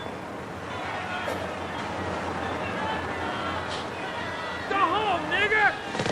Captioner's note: crowd shouting